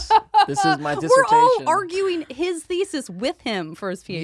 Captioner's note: laughs